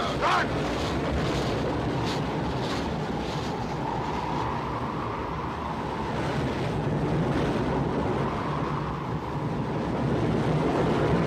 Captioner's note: wind howling